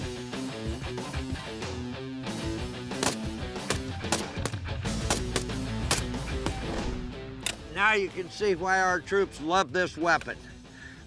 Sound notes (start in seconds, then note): 3.0 gunfire